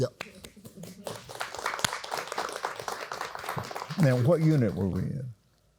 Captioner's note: applauds